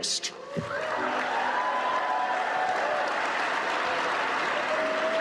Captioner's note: audience cheering